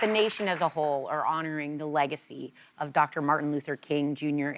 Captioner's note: applause